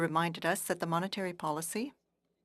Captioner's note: speaking FRENCH